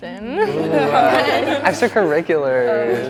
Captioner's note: group laughing